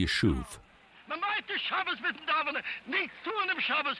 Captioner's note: speaking German